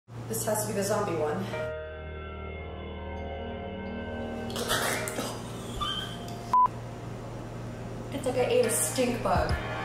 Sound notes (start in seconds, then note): 1.8 ominous suspense music; 4.5 gagging